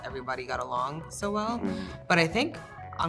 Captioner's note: Emma and Percy sound agreement